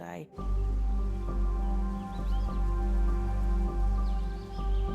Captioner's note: ominous music continues; birds chirping